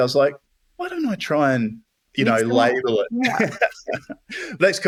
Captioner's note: laughter